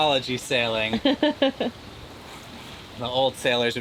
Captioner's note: chuckles